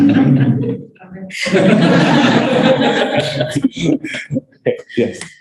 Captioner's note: laughter